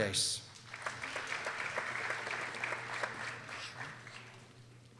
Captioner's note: people applauding